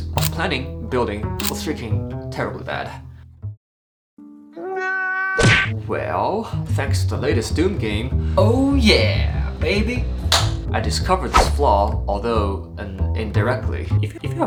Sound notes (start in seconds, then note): 4.6 scream